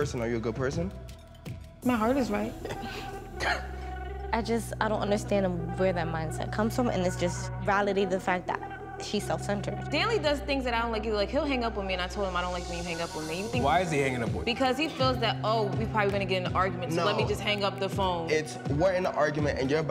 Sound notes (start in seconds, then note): 2.5 coughs